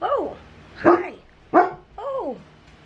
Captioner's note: Ollie barking